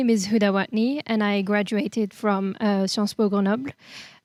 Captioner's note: speaks in foreign language